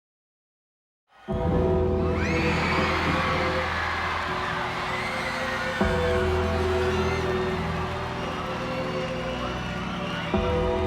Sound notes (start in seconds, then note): 0.0 applause